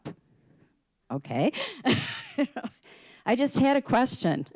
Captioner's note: laughing